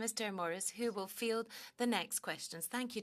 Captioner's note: speaking French